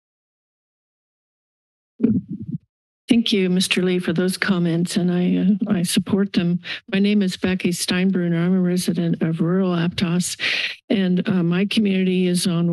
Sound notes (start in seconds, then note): 2.0 mic thumps